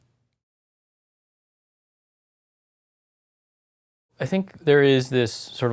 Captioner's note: pause